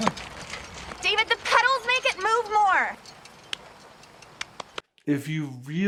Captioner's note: clapping